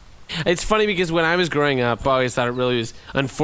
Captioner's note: bitterly laughs